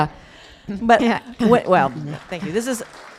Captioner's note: applause